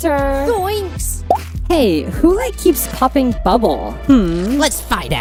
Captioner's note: pop